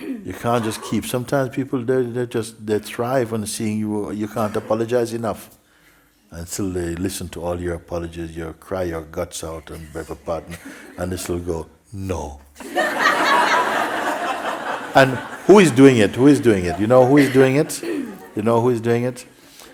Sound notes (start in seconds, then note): 12.6 laughter